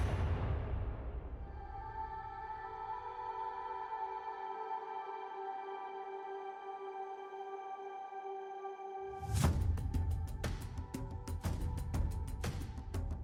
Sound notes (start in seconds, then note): 1.5 ethereal ringing; 9.6 upbeat drum music